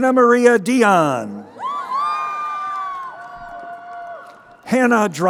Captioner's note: crowd cheering